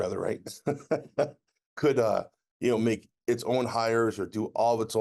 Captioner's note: laughs